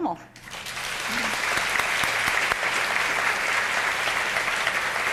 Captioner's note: audience applauding